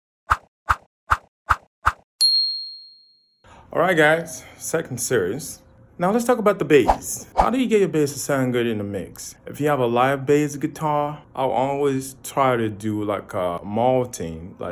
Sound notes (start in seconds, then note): 0.5 whooshing; 2.2 bell dinging